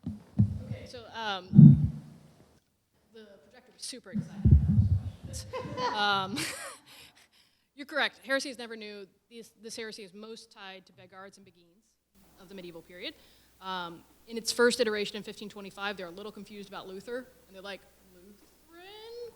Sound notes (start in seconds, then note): 5.3 laughter